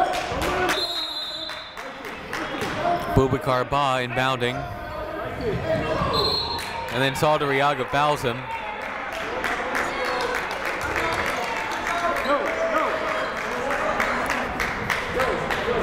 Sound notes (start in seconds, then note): 0.7 whistle blowing; 6.1 whistle blowing; 9.1 clapping